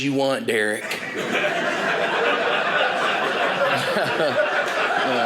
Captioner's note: audience laughing